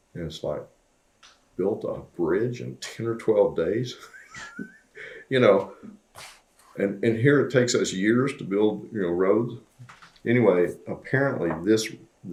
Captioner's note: laughs